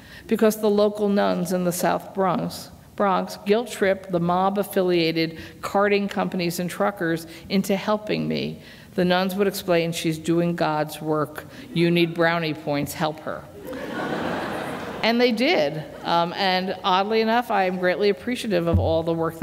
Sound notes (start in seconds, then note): 13.6 laughter